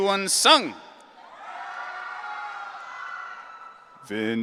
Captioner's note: audience cheering